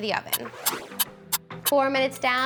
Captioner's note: timer ticking